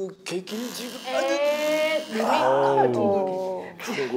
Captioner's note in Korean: 삐그덕